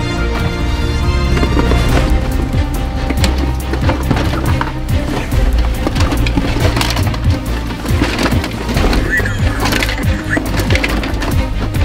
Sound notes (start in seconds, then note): 7.2 toys rumbling